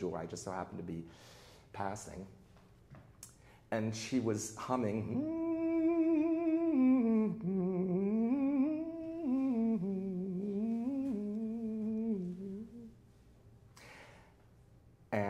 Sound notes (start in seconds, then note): 6.1 hums operatic music